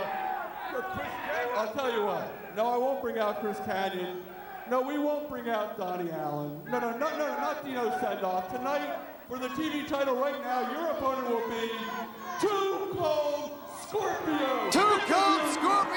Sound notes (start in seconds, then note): 2.3 crowd chatter